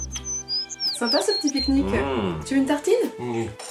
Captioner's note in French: Bruits d'oiseaux